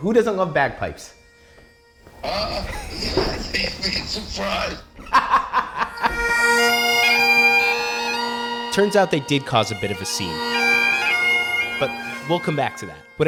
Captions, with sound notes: Who doesn't love bagpipes? [Laughs] [Bagpipe Music] Turns out they did cause a bit of a scene. But we'll come back to that.